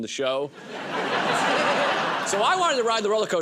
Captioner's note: laughter